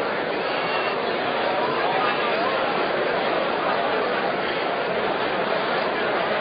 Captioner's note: random conversation